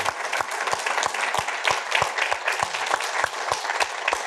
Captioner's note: applause continues